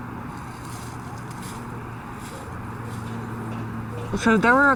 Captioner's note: footsteps